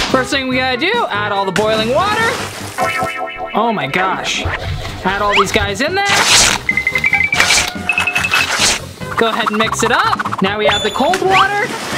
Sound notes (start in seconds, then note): 6.0 ripping paper; 7.3 plunking